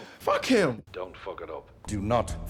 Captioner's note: Wade, over the phone